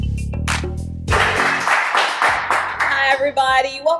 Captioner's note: audience applauding